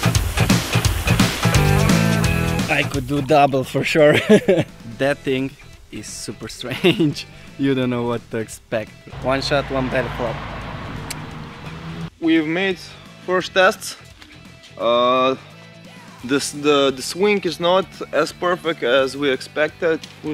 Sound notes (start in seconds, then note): 0.0 rock music; 4.0 laughter; 11.0 clicks tongue